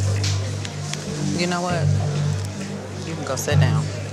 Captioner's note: hands patting